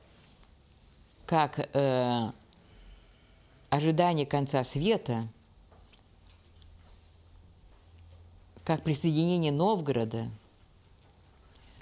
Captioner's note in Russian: пауза три секунды